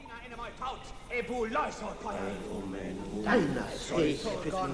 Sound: men speaking in Greek

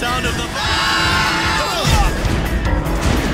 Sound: shouting

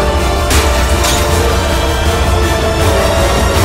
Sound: glass breaking

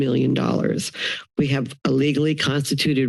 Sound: inhales

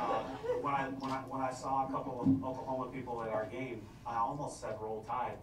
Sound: laughter

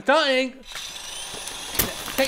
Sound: power tools start up; bangs

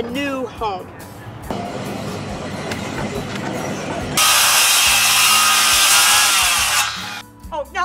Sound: sounds of construction

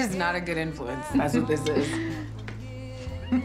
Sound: chuckles

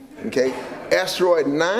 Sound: laughter

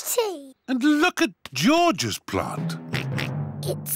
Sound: oinks

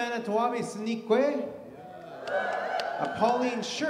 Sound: audience cheers

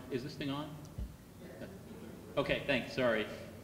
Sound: laughing

